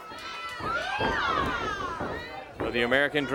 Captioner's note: crowd cheering